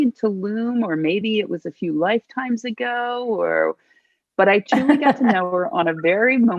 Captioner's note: laughing